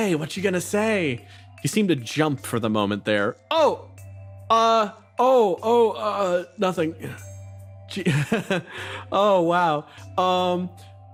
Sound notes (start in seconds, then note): 8.0 nervous Laugh